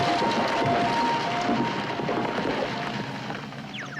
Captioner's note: siren